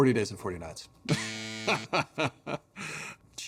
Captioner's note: Josh laughing; cross buzzes